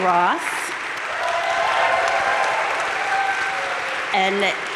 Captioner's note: audience cheering and applauding